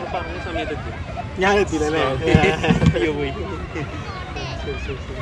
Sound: laughing

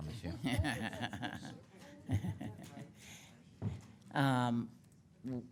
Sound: councilmembers laughing

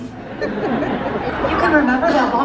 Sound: audience laughs

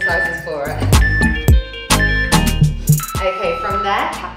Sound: timer beeping

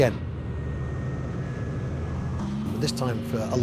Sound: engine cutting out

